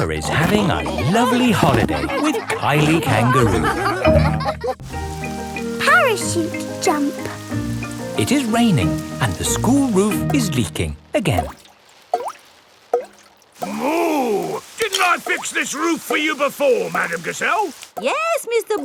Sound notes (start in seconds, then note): 4.1 all laughing; 12.7 water dripping